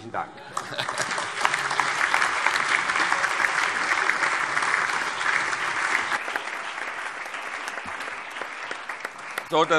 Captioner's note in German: Heiterkeit und allgemeiner Beifall